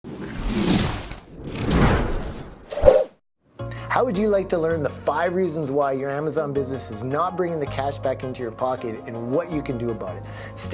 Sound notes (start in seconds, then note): 0.2 whooshing